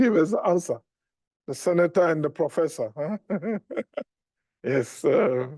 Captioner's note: laughs